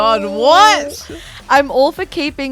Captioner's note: groans